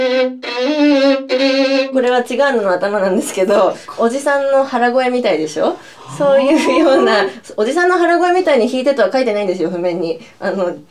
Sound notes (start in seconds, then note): 6.0 laughs